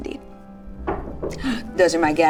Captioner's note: knocking